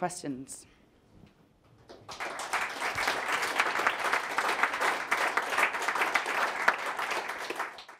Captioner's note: applause